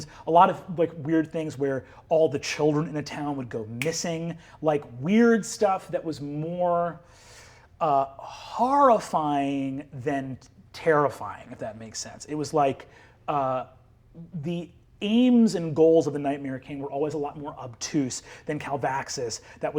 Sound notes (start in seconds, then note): 3.8 snaps